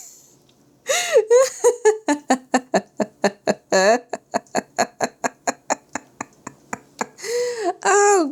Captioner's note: more laughter